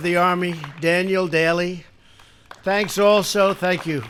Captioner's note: applause